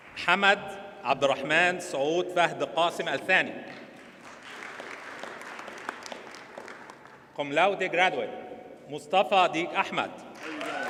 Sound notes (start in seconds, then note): 4.0 audience applauds